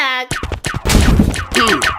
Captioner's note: zaps; zapping sounds